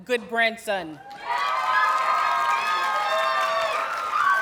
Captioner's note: audience cheers and applauds